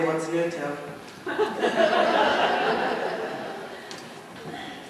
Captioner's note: laughter